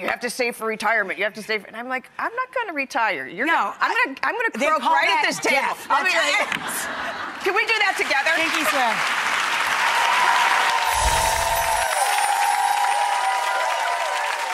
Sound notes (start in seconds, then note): 6.6 laughs; 9.8 audience applauds; 10.8 shimmering